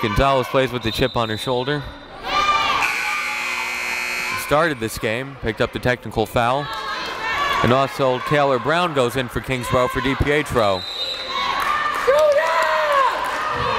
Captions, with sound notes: See if Gonzalez plays with a chip on her shoulder. (timer buzzes) Started this game, picked up the technical foul. And also Taelor Brown goes in for Kingsborough for Di Pietro.